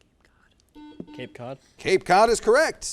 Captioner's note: buzzer